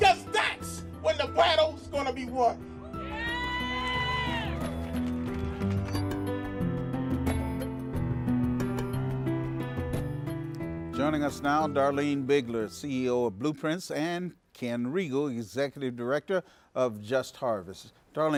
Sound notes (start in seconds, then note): 2.8 audience cheers